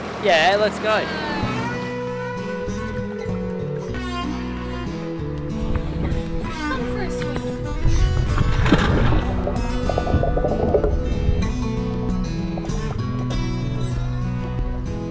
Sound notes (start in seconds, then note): 2.3 twangy guitar music; 7.7 water splashes; 11.3 twangy guitar music